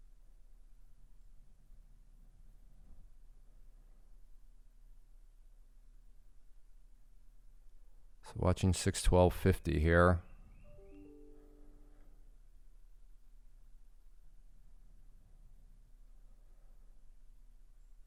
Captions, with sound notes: So watching 612.50 here. (bird chirping) (Windows notification)